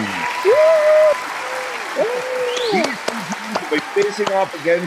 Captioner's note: cheering and clapping